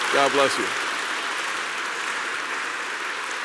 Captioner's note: applause